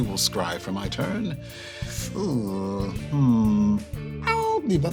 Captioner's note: sharp inhale